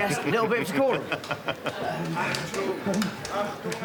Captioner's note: laughs